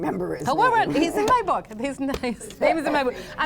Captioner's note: laughs